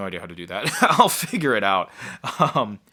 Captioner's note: laughing